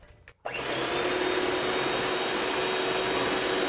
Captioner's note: mixer whirring